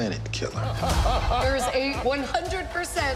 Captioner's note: laughing